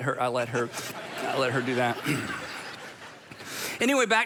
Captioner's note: crowd laughing